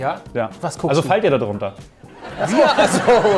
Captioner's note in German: Lachen